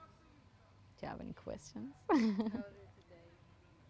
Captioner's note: pauses 10 seconds; laughing